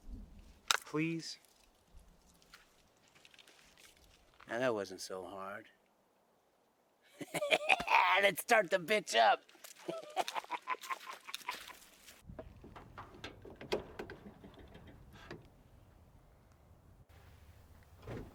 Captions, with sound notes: - Please. - Now, that wasn't so hard. (laughs) Let's start the bitch up. (laughing)